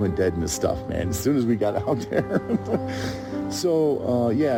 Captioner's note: laughs